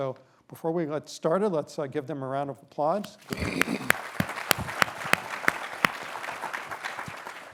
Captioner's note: applause